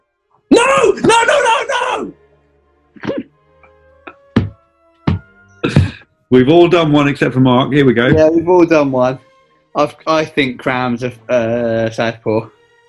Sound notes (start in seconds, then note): 3.0 giggling; 4.3 thumping